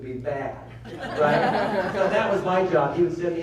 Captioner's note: laughter